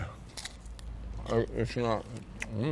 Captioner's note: mouth full